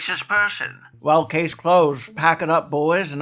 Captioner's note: old timie??? voice